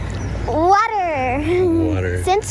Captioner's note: giggling